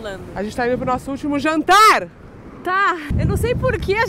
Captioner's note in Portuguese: grita